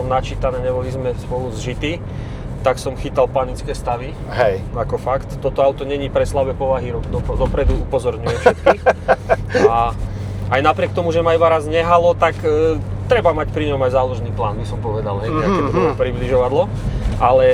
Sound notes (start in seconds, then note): 8.2 laughs